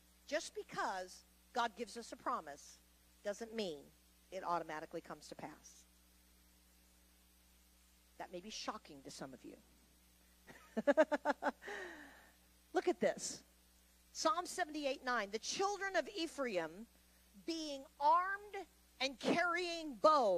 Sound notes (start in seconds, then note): 10.5 laughs